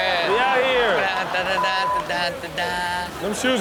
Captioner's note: making instrument sound effects